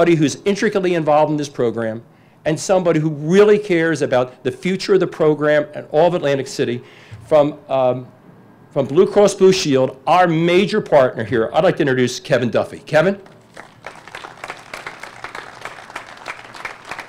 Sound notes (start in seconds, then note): 13.2 applause